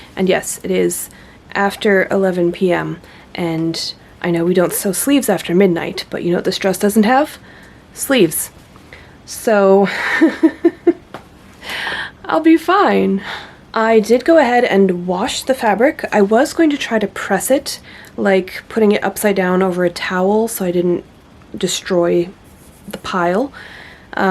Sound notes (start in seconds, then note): 10.0 laughs